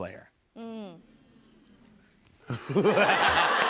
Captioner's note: audience "mms"; laughter